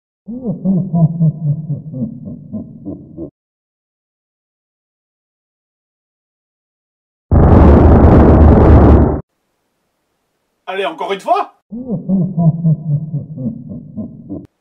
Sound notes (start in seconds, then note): 0.3 laughs demonic idle; 7.3 explosion; 11.8 laughs demonic idle